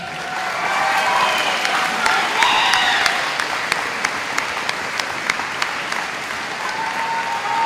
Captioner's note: applause